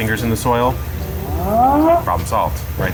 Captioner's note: warning sound